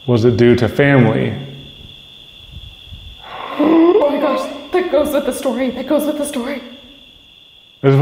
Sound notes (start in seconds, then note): 2.2 crickets chirping; 3.2 gasp